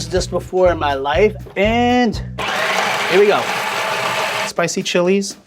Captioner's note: blender whirling